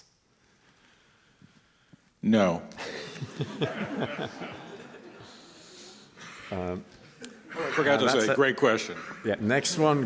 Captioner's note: laughter